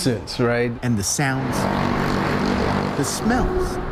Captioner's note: engine growling